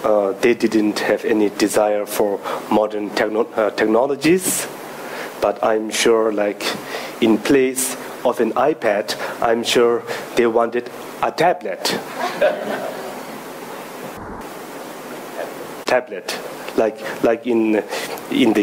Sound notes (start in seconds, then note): 12.1 audience laughing